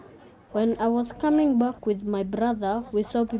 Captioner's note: through translator